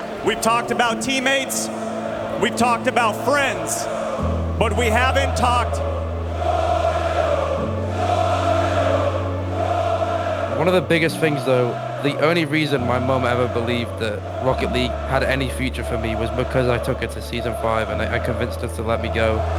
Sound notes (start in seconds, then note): 6.4 Crowd Chanting "Joyo"